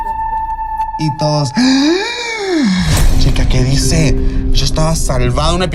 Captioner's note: gay gasp